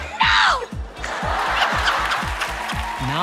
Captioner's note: laughter